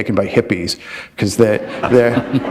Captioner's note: laughter